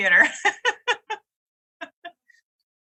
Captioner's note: laughs